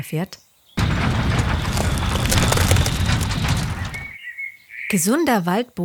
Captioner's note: machine noise